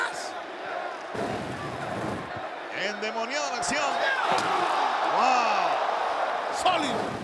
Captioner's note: applause